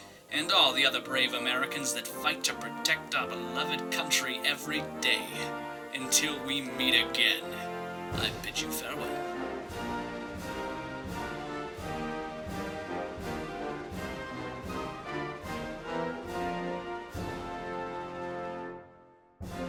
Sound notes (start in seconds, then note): none